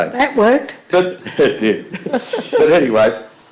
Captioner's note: laughs